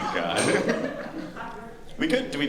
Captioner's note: laughter